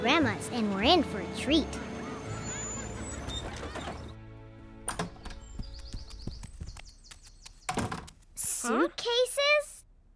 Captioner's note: brakes Squealing